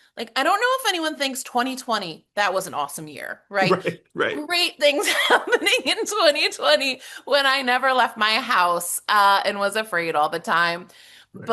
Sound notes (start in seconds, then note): 3.6 laughs